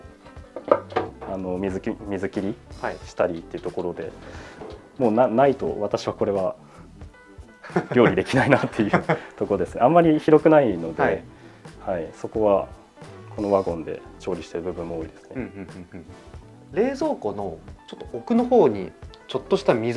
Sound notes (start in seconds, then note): 4.2 laughs